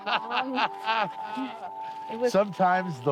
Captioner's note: laughs